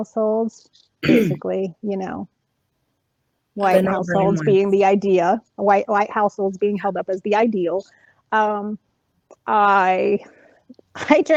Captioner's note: laughing anxiously